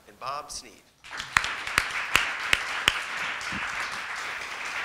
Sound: crowd applauding

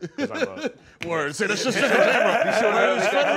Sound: laughter

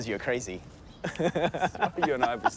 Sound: laughs

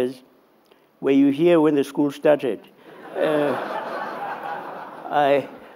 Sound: laughter

